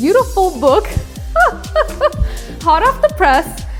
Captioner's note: laughs